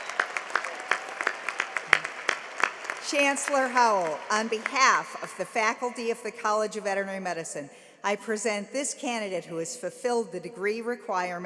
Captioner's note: cheering and applause